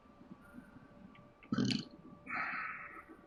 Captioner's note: burps